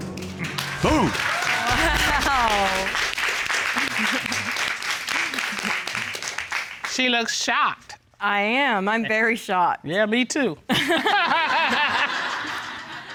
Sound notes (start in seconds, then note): 0.8 chuckles; 10.4 laughs; 10.8 chuckling; 10.8 audience laughing